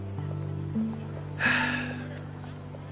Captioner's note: sighing